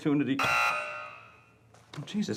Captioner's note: buzzing